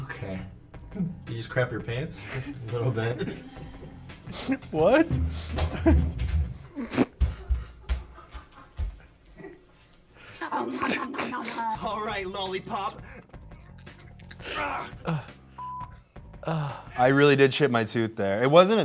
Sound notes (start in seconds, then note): 2.2 laughs; 7.5 stomping; 10.7 munching; 14.5 grunts; 15.6 beep